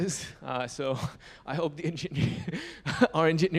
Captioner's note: chuckles